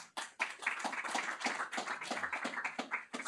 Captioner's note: applause